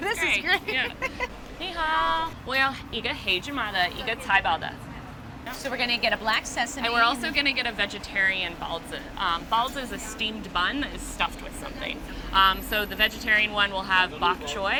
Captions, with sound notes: -This is great. [ Laughs ] -Ni hao. [ Speaking Chinese ] -So, we're gonna get a black sesame -- -And we're also gonna get a vegetarian baozi. Baozi is a steamed bun that is stuffed with something. So, the vegetarian one will have bok choy,